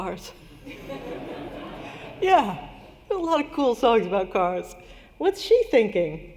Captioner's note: laughter